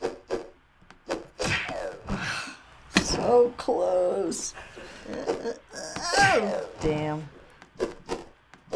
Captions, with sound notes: (sighs in frustration) So close! Damn.